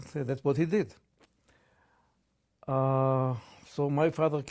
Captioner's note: pauses for 3 seconds